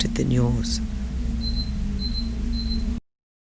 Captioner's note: beeping